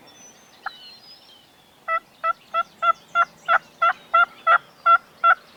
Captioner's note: turkey call device yelping